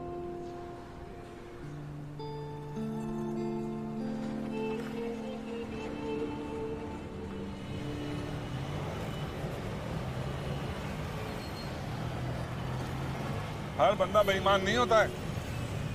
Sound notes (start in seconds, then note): 7.8 car engine revving